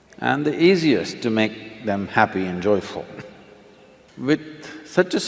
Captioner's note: laughs